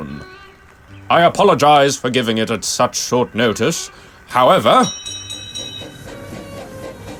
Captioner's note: TOBY's bell interrupts